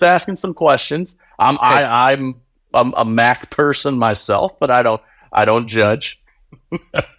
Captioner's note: laughing